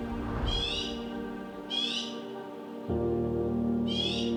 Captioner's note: birds calling